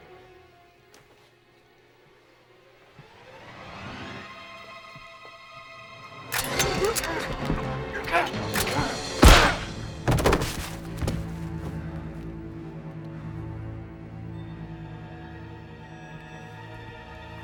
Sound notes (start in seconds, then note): 3.6 dramatic music; 6.6 men grunting; 8.5 rifle thuds